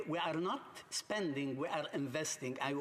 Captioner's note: speaking english